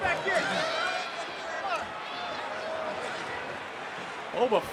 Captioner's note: audience cheering